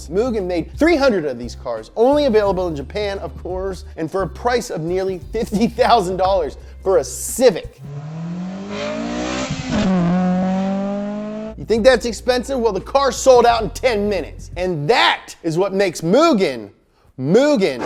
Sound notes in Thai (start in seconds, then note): 7.8 เสียงคำรามของเครื่องยนต์